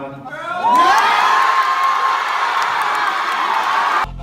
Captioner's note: audience cheering